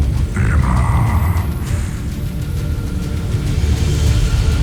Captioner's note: sparkling whoosh